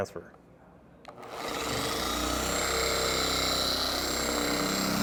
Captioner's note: machine whirring